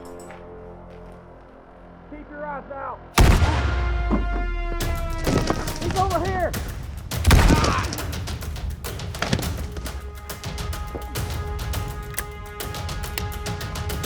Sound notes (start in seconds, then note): 3.2 gunfire echoing